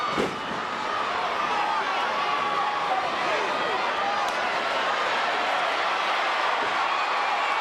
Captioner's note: crowd chattering; stage clattering